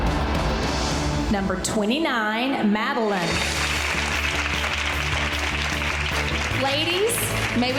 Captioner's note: girls applauding